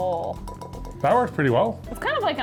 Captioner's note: bowl clinking